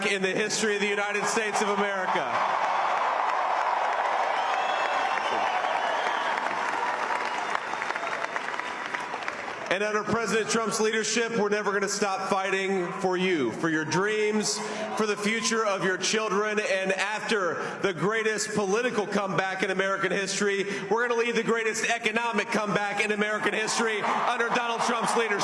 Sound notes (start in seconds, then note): 9.2 cheers and applause